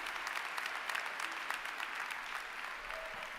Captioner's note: applause